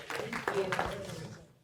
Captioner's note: applause